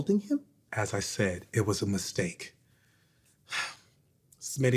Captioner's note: sighs